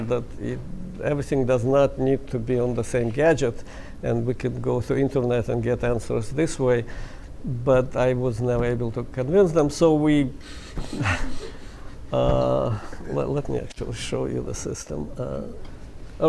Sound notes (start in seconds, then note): 10.7 laughs